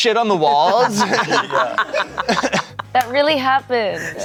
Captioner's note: everyone laughs